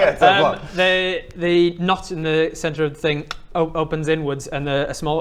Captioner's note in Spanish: clic